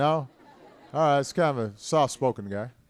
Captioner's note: laughter